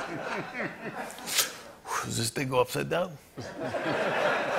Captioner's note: laughter; exhales sharply; laughter